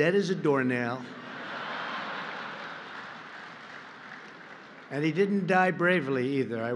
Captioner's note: laughter and applause